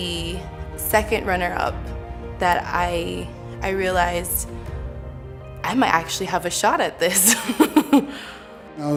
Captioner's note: laughing